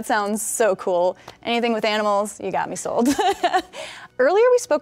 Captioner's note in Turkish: güler